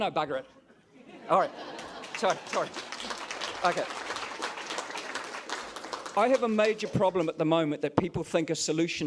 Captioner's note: applause